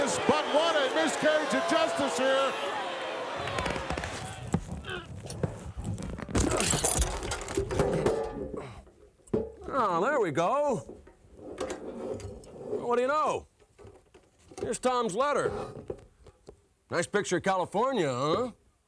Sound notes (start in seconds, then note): 4.8 grunting; 5.9 tin can clanking